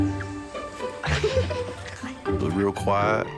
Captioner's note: laughs